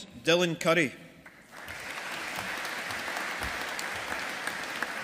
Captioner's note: audience applauding